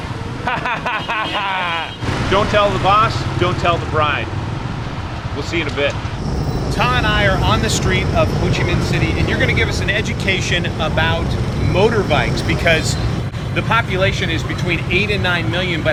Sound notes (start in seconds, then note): 0.4 laughs; 4.2 motorbike idling